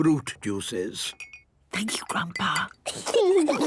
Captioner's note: Granny whispering; children giggling